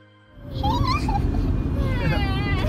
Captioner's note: laughter